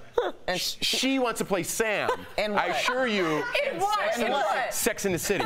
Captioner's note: laughter